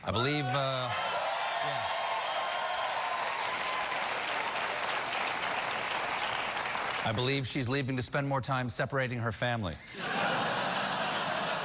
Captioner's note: cheers and applause; laughter